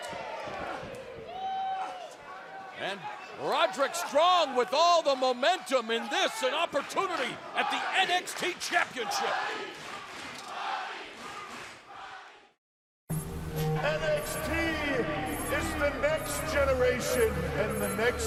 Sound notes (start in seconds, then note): 9.3 fans chanting